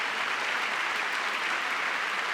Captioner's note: cheering; applause